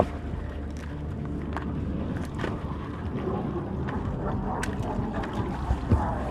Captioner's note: aircraft flying overhead